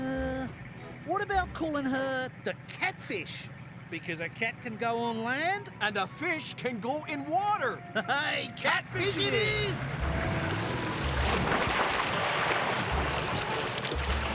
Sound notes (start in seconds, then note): 8.9 engine Revving; 10.1 splash